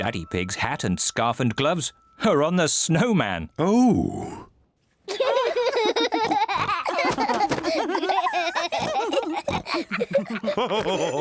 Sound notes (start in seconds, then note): 5.1 all giggle; 10.9 laughs